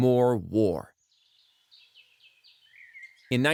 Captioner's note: birds chirping